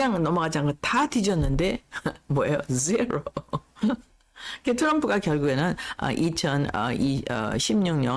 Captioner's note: laughs